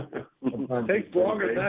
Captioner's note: laughter